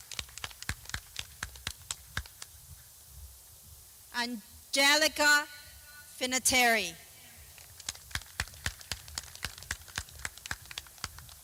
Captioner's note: clapping